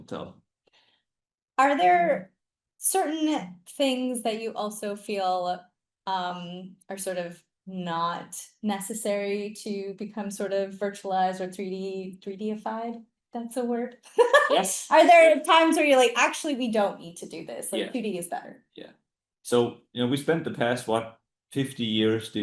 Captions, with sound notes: tell. Are there certain things that you also feel are, sort of, not necessary to become sort of virtualized or 3D, 3D-ified, if that's a word? (laughs) Yes. Are there times where you're like, "Actually, we don't need to do this." Yeah. Like 2D is better. Yeah. So, you know, we spent the past, what, 50 years